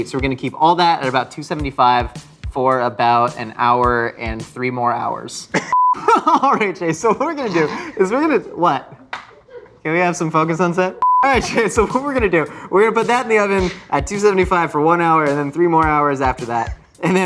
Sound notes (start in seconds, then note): 5.7 beep; 5.9 laughter; 9.2 crew laughs; 11.0 beep